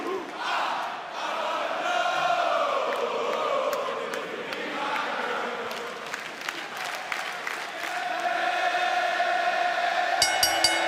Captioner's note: fans chanting; bell ringing